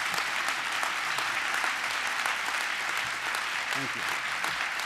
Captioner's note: applause